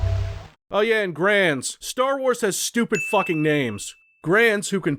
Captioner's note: ding